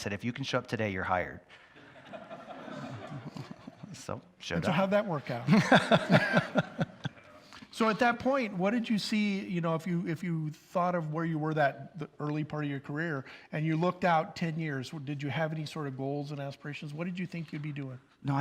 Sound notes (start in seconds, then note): 1.8 audience laughs; 5.5 audience laugh